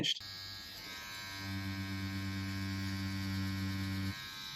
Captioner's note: machine whirring